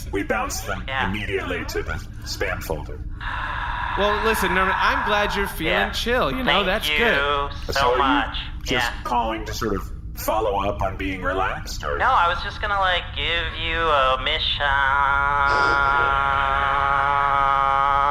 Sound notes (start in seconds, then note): 3.2 Nermut sighs